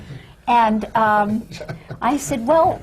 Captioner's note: laughter from the panel